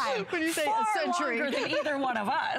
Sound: laughter

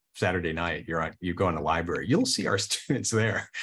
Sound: chuckles

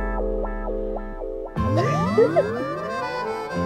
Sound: giggling

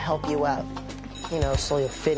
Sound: bell rings

